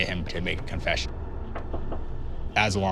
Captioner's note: knocking